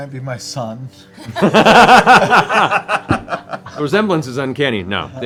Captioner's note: laughter